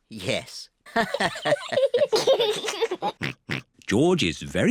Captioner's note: all laugh